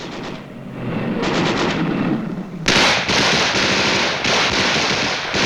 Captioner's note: gunshots booming